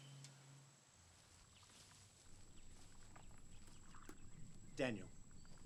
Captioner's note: birds chirping; cicadas chirping